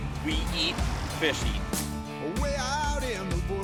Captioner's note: voiceover